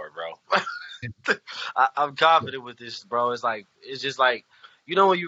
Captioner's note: laughs